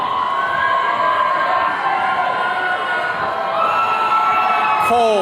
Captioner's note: attendees cheering